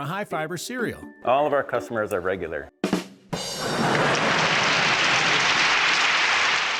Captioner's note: crowd applauding